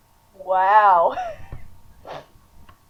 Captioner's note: laughing